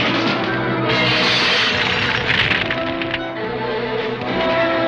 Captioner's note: fire raging